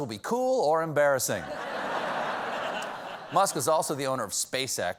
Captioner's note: laughter